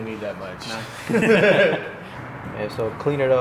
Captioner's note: both laugh